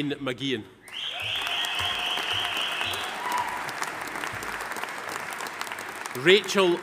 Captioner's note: audience member whistling; audience applauding